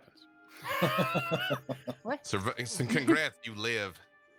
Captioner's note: group laughs